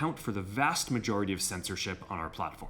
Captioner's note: none